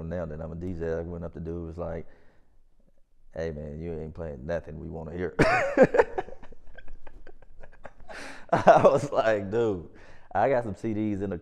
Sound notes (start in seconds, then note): 5.4 laughs